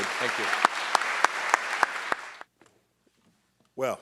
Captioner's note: audience clapping